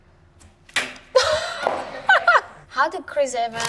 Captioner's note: laughing